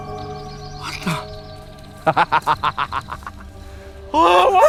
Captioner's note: laughs evilly; yelps